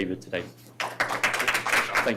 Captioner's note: audience applauding